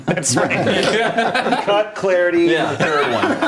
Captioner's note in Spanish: risas